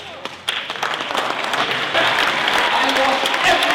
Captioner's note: applause